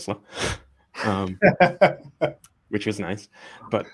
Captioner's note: both laughing